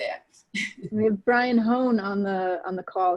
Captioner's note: laughs